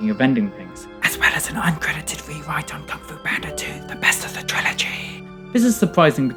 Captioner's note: whispers